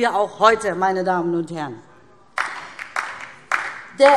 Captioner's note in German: Beifall DIE LINKE